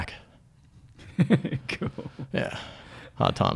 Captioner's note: laughs